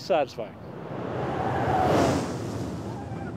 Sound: coaster car whooshes

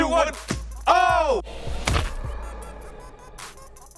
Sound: slimes splat

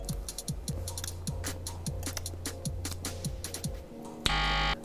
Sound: lips smack; buzzer beeps

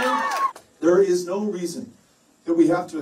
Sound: cheers and Applause

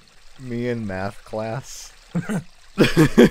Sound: laughs; chuckles

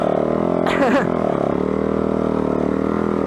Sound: engine revving

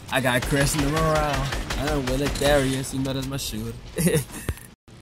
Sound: laugh

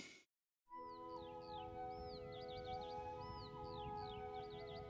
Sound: birdsong

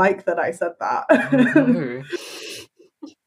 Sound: laughs

